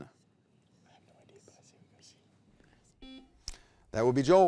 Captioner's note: whispers; buzzer beeps